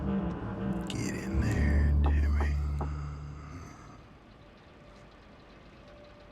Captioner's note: hand knocking